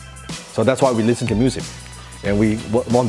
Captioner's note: snapping fingers